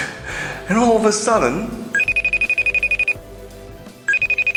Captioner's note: phone rings